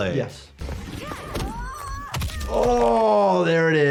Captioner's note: Sonia and Kitana grunt; bones crack